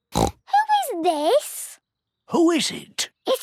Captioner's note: snorts